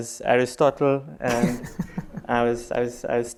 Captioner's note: laughs